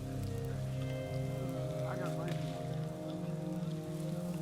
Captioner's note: chattering